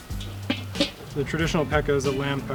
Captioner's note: pot lid clanking